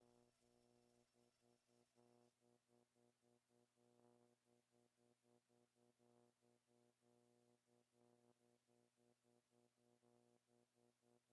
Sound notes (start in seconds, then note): 0.6 speaking French